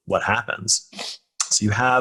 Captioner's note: nasal clearing